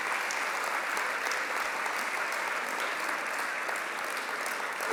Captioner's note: applause